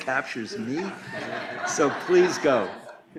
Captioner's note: laughter